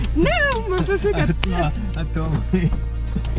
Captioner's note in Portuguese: risos